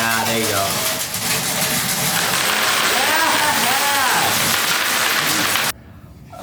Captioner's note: metal clanging; coins dropping on the table